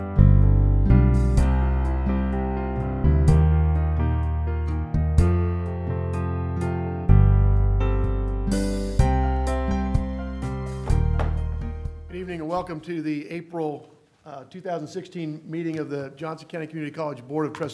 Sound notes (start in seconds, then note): 10.8 gavel